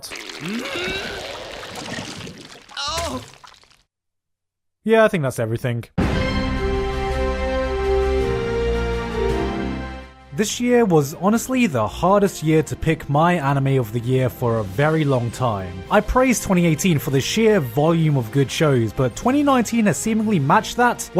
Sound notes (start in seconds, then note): 2.6 A sexual ass moan